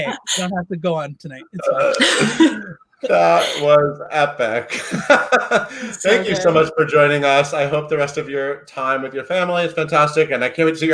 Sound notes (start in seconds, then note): 5.4 laughs